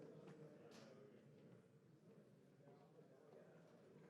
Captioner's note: none